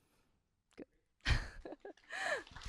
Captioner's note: laughs; applause